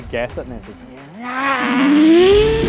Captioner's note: engine noise